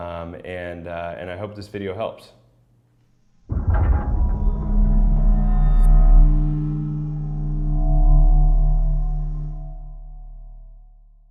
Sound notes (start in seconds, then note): 3.4 dramatic sound effects